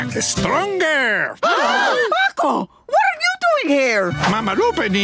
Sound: squawking; gasping

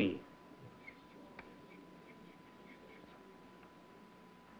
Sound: writing

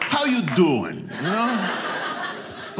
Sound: audience laughing

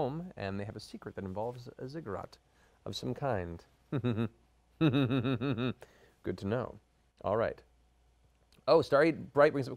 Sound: evil laugh

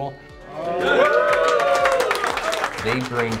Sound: applause

